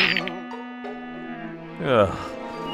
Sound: exasperated sigh

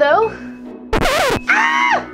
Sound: record scratching; Gekko screaming

